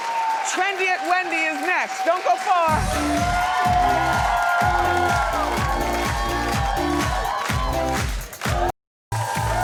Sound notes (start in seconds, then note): 2.6 upbeat music; 3.0 audience cheers; 9.1 audience cheers; 9.4 upbeat music